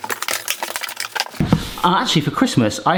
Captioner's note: cardboard crinkles